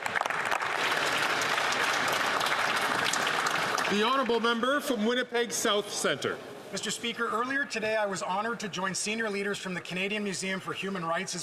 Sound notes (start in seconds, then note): 5.5 some Applause